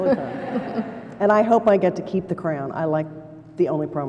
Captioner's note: laughter